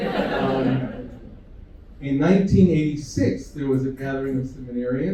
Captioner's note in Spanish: risas